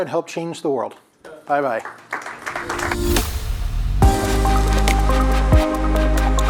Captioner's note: audience applauds; relaxed electronic music